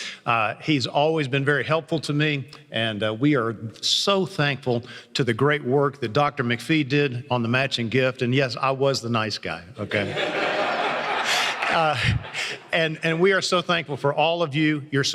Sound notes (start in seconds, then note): 9.9 laughter